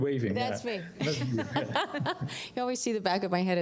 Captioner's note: laughter